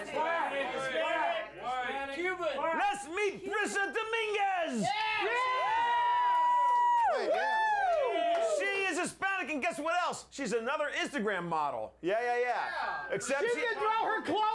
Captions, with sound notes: - WHOA! WHAT DO YOU GUYS THINK OUT HERE? [Audience shouts answers] LET'S MEET BRISSA DOMINGUEZ! [Audience cheers] SHE IS HISPANIC AND GUESS WHAT ELSE? SHE'S ANOTHER INSTAGRAM MODEL, YEAH, YEAH, YEAH. EXCEPT SHE ...